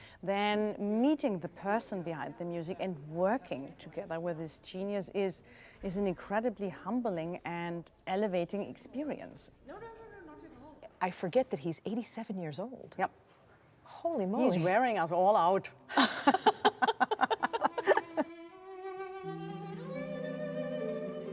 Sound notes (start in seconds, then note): 15.9 laugher; 18.7 music: motion picture score